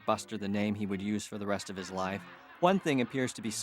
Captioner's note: laughter continues